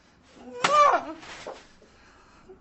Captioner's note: vicky groans